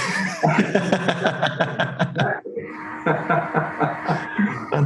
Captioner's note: both laugh